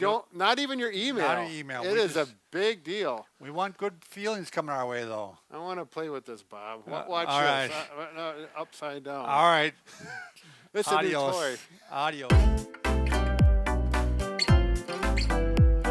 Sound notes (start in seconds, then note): 10.0 laughs; 12.3 upbeat pop music